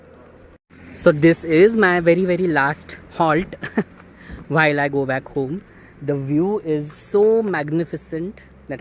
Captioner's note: snickers